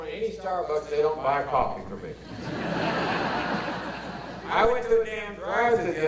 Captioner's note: audience laughter